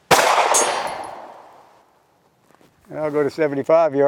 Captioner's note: gunshot fired